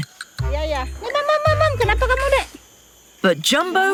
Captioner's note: in foreign language